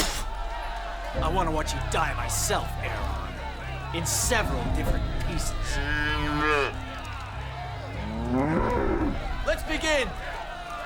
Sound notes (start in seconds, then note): 5.5 cows bellowing